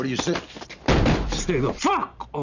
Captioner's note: bang